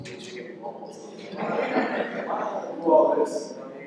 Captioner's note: laughter